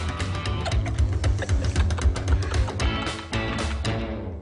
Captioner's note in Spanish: Risas